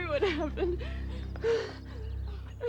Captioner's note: panting